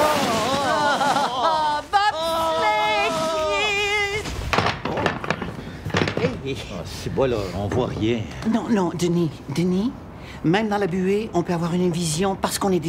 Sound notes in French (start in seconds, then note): 0.1 exclamations; 5.8 bruits de meubles qui tombent